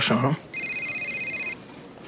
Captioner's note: cellphone ringing